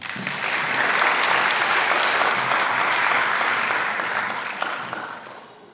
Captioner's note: applause